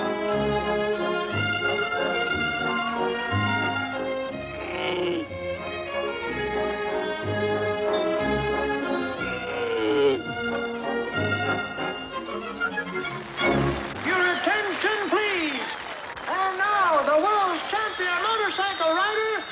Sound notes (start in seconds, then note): 4.4 bird grunting